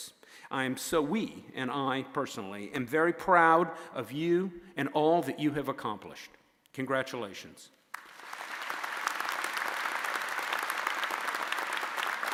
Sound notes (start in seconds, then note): 7.9 audience applauding